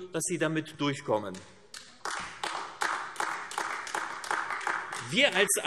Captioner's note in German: Beifall AfD